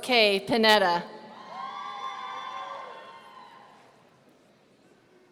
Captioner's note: audience cheering